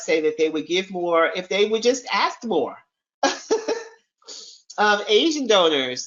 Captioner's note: chuckles